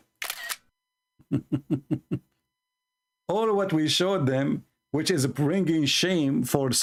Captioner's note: Ketawa